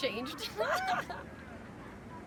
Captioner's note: laughing